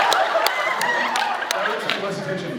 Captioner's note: laughs